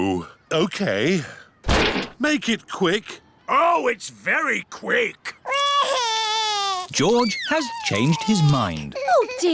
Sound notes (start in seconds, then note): 5.4 crying